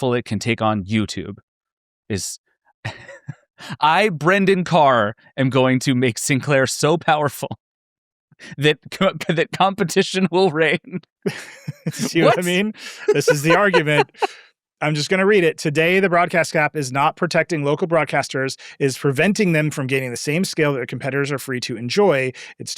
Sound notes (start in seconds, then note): 2.8 laughing; 11.2 laughs